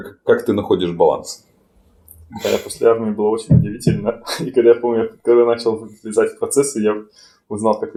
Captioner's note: laughing